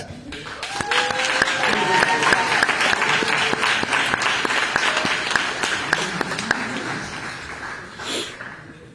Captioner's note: applause